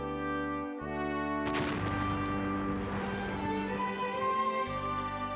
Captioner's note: dynamite exploding